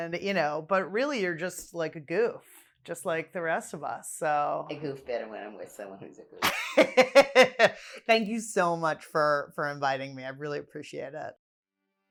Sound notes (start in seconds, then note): 6.4 laughs